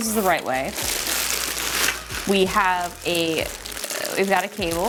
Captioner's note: wrapper crinkling